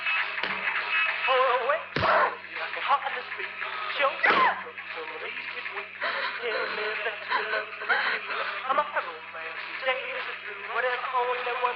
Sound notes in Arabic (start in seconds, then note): 0.1 تضرب لويز الجسم وتتأوه; 6.1 تشهق لويز